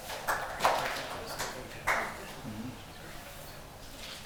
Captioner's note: hands clapping